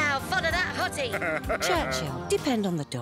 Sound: laughs

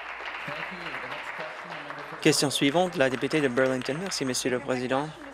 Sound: applause

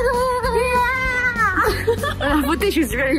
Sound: cheering

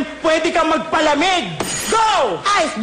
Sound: ringgg

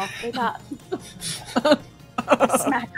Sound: laughter

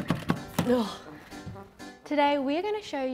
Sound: buttons clanging; playful music; sighing

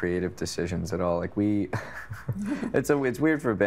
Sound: chuckling

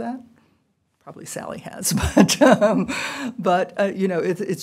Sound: laughter

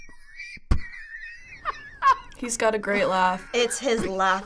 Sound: laughing

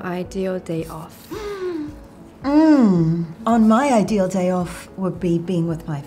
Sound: hums

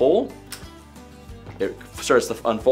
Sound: latch clicks

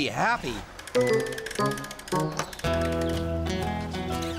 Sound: clicking

